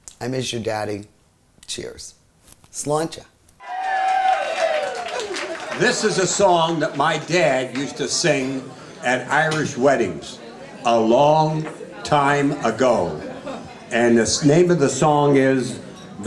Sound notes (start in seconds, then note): 3.6 audience cheering